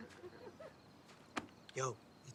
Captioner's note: light chuckling